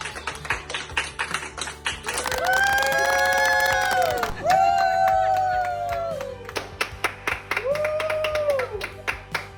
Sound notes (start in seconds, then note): 2.1 cheering